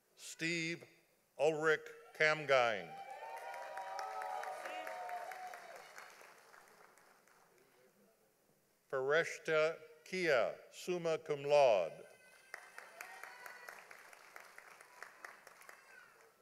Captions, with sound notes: Steve Ulrich Cangine. (audience applauding) Foreshta Kia, summa cum laude. (audience applauding)